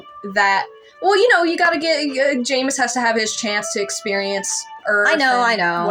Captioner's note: stutter